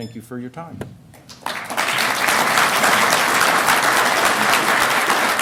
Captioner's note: applause